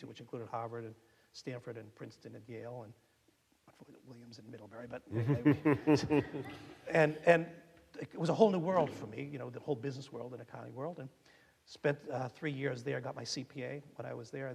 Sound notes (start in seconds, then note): 5.2 audience laughing